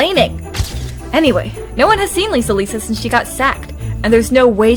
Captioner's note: camera flash